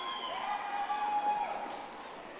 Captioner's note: audience applauding